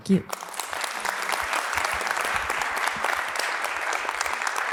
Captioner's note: applause